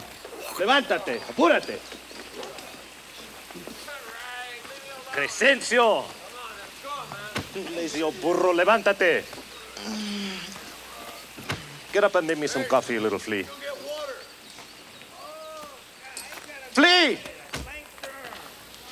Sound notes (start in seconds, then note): 0.3 Bruto speaks Spanish; 8.8 speaks Spanish; 9.8 Crecencio groans; 17.2 foot thuds